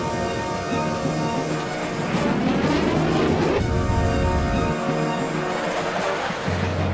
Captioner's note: aircraft blasts; aircraft whirring; intense, dramatic music